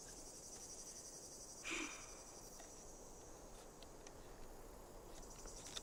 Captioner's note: Dylan grunting